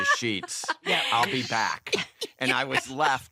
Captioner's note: laughing